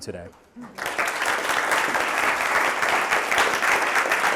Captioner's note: audience applause